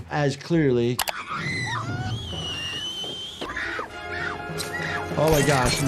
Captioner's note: scream